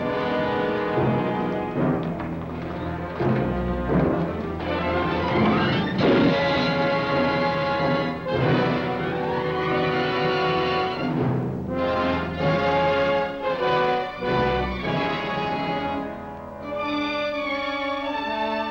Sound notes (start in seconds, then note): 6.0 grate slams; 7.1 dramatic orchestral music